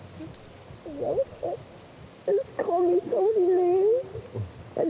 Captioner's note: sobbing and mumbling